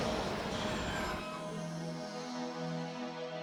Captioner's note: brakes Squealing